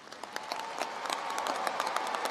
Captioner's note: applause